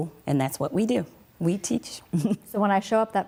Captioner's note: giggles